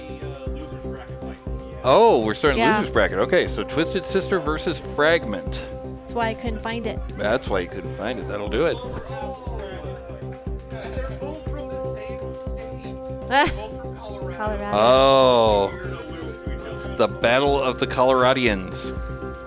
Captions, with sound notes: Oh, we're starting Loser's Bracket, okay. So Twisted Sister versus Fragment. That's why I couldn't find it. That's why you couldn't find it, that'll do it. (crowd chattering) Oh, the Battle of the Coloradians.